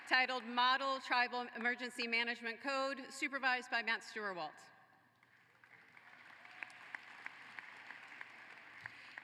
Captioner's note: applause